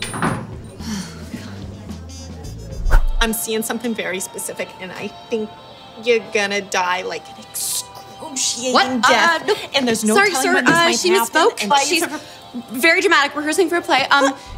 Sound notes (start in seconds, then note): 0.7 quietly sighing; 3.0 long Island Accent